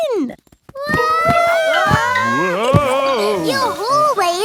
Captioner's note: all yelling